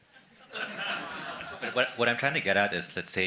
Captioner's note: attendees laughing